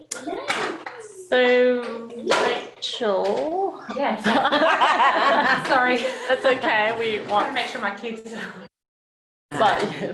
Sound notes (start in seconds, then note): 4.2 laughter